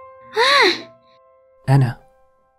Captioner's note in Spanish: Sonidos de rubia sorprendida